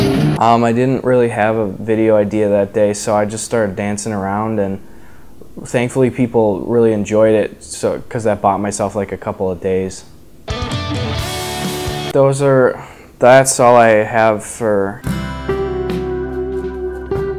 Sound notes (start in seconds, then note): 4.8 breath in; 10.4 rock music; 15.0 outro music